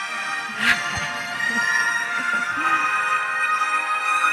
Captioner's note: laughter